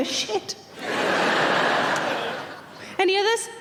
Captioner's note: audience laughing